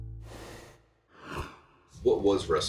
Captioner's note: rushing sound plays